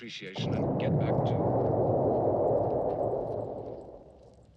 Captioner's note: exploding in the distance